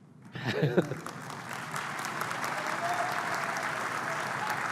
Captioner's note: applause; laughs